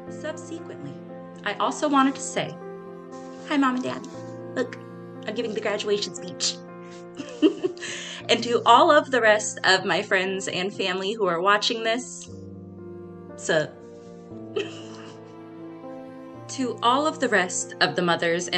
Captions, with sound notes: Subsequently, I also wanted to say hi, Mom and Dad. Look, I'm giving the graduation speech. (laughs) And to all of the rest of my friends and family who are watching this, 'sup? (laughs) To all of the rest of the mothers